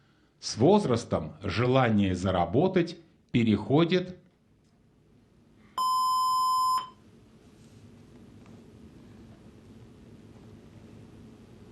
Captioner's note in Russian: колокольчик